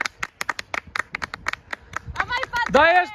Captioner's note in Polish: Aplauz